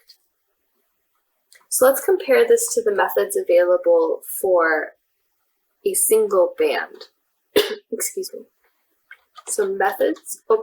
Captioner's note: moderator coughs